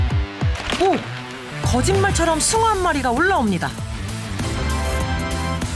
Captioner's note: flapping